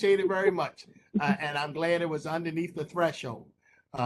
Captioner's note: laughter